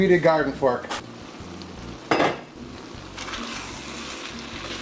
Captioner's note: sizzling